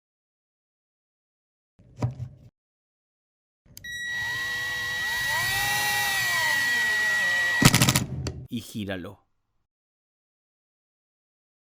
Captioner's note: Se oye el taladro